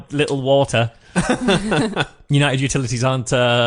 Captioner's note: laughs